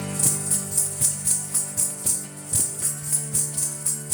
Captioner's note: bells chiming